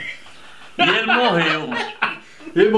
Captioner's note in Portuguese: risos